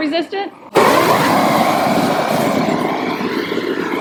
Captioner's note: fire whooshing